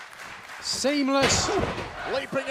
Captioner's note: fans chanting